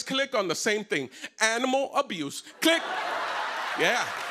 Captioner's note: laughter